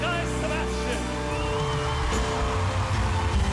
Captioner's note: cheering and applause